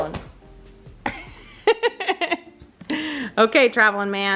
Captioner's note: laughing